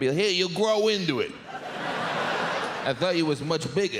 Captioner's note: audience laughs